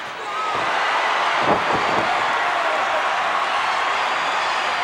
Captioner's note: crowd cheers